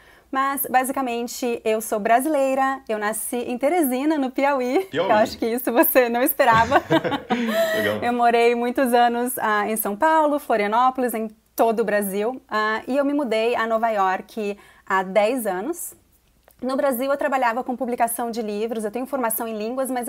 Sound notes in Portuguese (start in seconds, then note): 6.5 risos